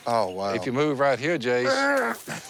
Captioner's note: throws up